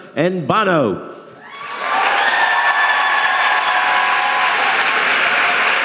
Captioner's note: audience applauding and cheering